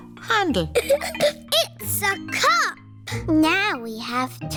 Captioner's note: giggles